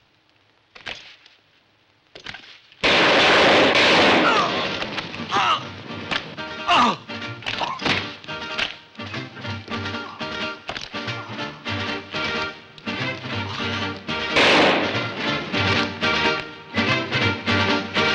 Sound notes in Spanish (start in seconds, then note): 2.8 Disparos